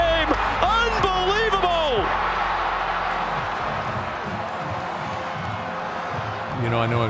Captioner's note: crowd cheering